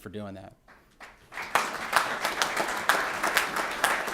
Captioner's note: applause